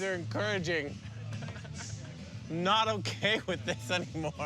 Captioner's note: laughing